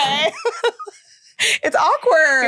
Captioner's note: laughing